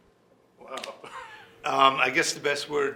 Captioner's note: laughing